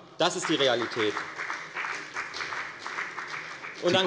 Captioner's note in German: Beifall bei der FDP